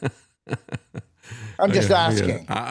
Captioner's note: laughing